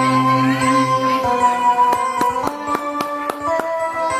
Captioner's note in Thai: ปรบมือ